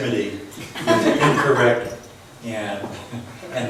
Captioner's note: laughs